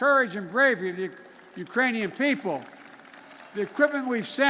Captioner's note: applause